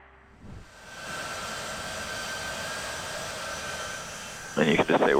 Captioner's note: plane engine rumbling